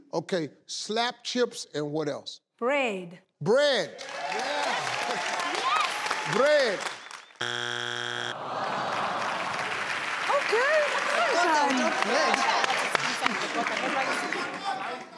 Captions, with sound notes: Okay, slapped chips and what else? - Bread. - Bread. (cheering) Bread. (buzzer signaling wrong answer) (groans from audience)